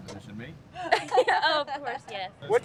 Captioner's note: women laugh